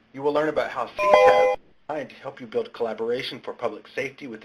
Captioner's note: ding